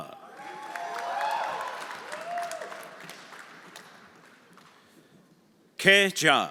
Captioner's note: everyone applauding and cheering